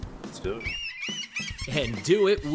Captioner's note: birds squawking